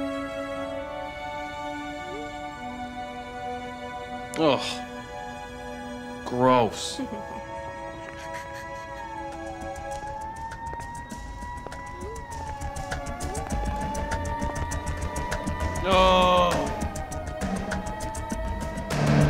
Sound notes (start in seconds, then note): 6.5 distant cackle; 9.4 distant sirens